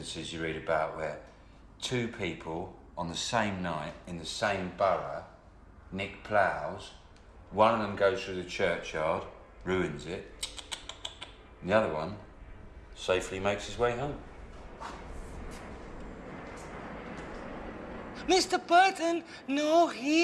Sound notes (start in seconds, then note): 10.6 tuts